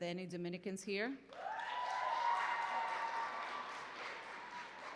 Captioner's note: applause